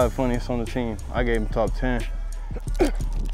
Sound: grunting

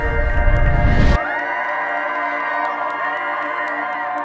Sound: cheering

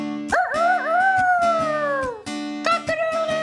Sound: crowing

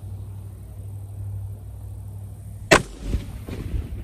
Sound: report of the rifle

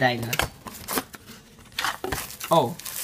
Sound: foreign language; box rustling; plastic crinkles

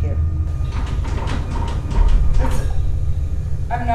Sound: rattling

